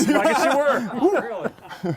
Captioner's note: laughter